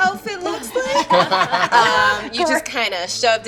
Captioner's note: laughing